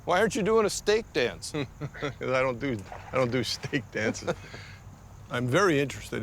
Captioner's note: chuckling